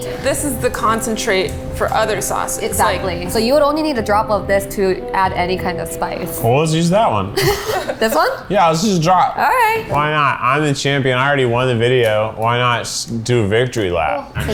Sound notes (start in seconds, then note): 7.3 laughs